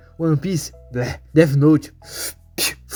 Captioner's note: spit